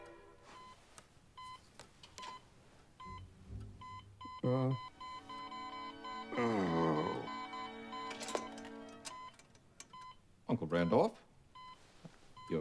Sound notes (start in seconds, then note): 3.8 beeping increases rapidly; 4.7 Randolph groans